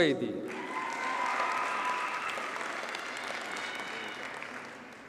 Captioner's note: audience cheers and applauds